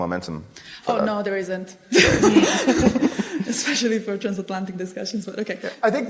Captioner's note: laughter